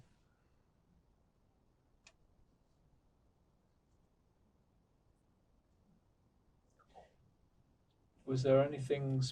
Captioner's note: pauses 8 seconds